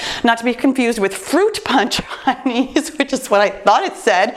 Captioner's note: laughs